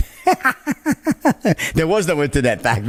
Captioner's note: he laughs